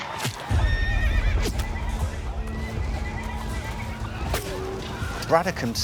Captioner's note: gunfire; horse whinnies